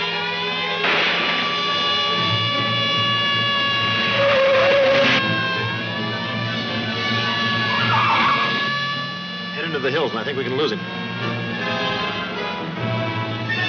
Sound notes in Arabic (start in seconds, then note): 4.4 اصرير الاطارات; 13.5 موسيقى درامية ناعمة